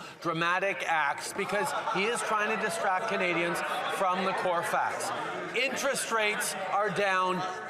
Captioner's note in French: voix de l'interprète